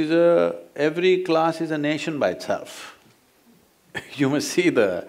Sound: laughs

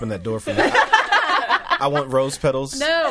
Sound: all laughing

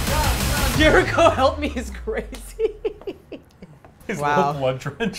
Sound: laughs

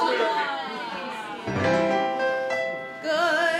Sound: audience laughter

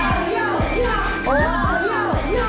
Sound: impressed

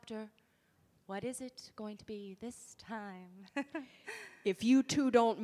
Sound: chuckles

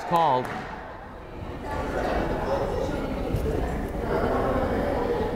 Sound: crowd chattering

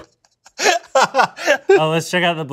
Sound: laughing

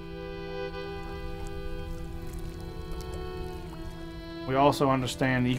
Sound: solemn music continues; water burbling

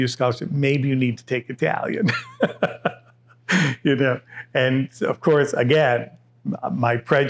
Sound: laughs

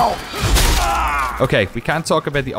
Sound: groan

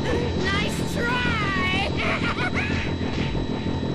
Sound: laughs maniacally

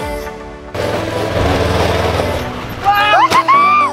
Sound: upbeat music; vehicle noises; kids laughing

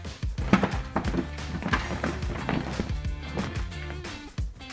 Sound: belt rustles; upbeat music continues

